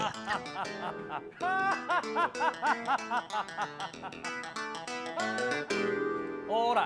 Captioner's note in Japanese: はーっ、ははははは！！